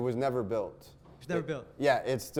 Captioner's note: voiceover